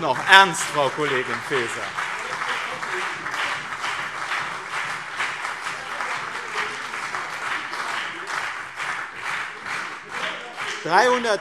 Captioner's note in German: Beifall BÜNDNIS 90/DIE GRÜNEN und CDU